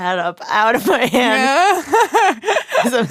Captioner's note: laughs